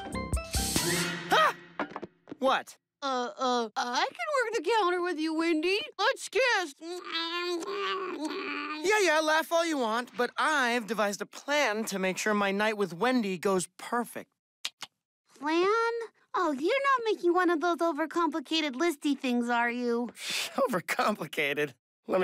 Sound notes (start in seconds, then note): 3.4 mocking; 14.6 clicks tongue